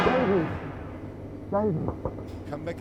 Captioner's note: loud intense music; knocking